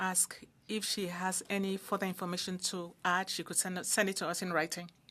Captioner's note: speaking French